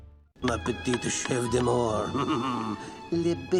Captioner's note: chuckles